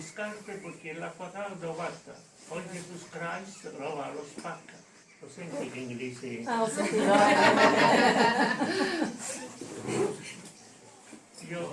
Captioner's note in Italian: Risate